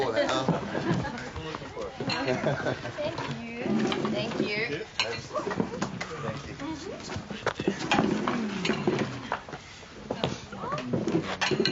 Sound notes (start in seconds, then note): 2.0 group chattering and laughing